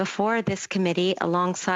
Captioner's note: speaking French